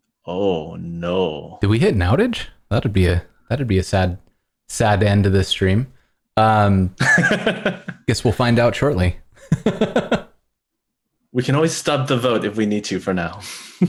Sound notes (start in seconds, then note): 6.4 laughter